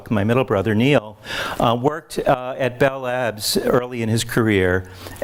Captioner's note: none